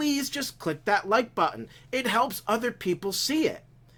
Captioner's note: none